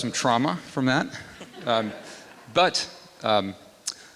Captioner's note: laughter